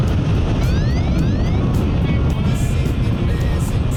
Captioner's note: alarm sounds